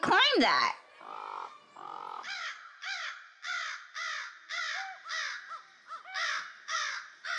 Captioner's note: birds chirping; frog croaks